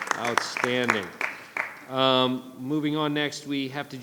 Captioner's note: audience clapping